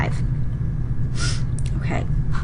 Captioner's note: sniffles